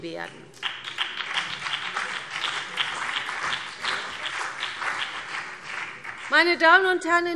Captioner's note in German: Beifall BÜNDNIS 90/DIE GRÜNEN und vereinzelt CDU